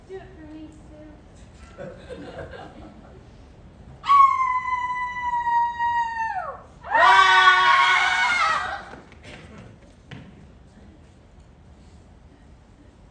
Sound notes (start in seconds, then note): 1.7 crowd chuckles; 4.1 howling; 6.8 screaming